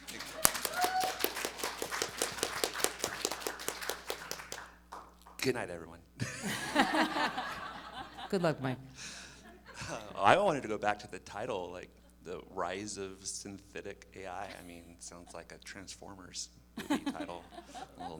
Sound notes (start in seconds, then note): 0.0 audience applauding; 6.2 audience laughing